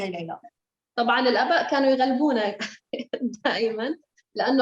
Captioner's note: speaking Arabic